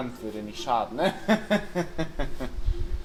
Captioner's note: chuckles